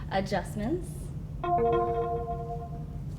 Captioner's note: alarm sound